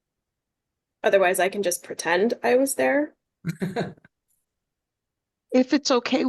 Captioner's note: laughter